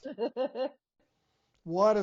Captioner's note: chuckling